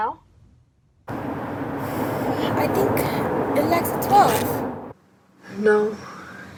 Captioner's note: wind blowing